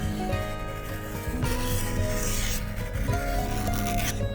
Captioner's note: scrapey scrapey